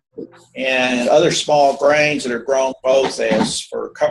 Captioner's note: audio warps